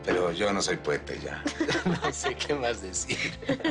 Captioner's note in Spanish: Risas